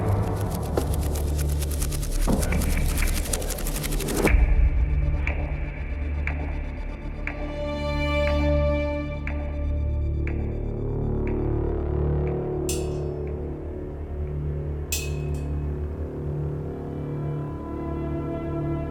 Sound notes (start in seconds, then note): 0.0 wings flattering; 6.9 dramatic music; 14.9 metal clanking